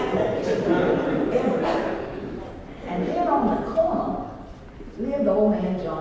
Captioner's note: laugh